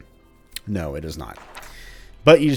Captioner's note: journal closes